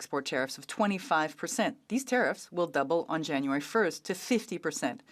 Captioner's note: speaking French